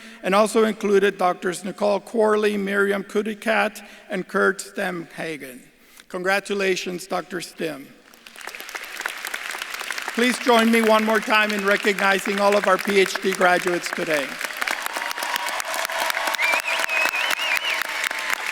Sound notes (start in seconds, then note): 8.2 audience clapping; 14.7 audience claps and cheers